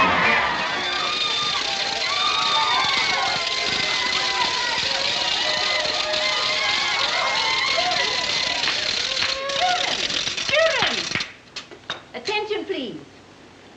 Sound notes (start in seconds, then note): 2.2 cheering; 2.2 party horns blowing